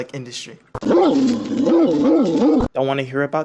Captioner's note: angry dog sounds